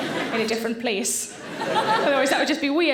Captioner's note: audience laughing; laughing